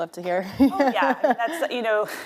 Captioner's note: laughing